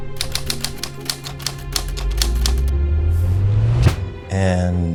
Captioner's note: typewriter clicking